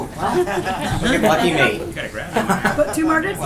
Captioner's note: laughter